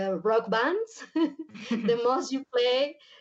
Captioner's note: chuckles